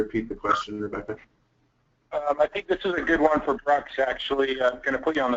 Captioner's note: voiceover